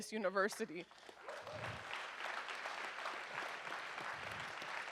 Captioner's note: audience applauds